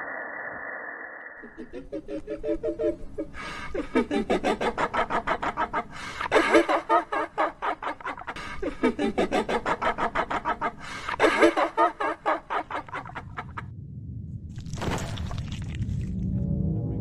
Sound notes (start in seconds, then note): 1.4 laughter